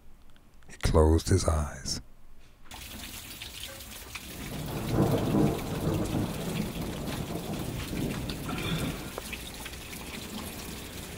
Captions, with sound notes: He closed his eyes. (rain pouring down) (thunder rumbles in the distance)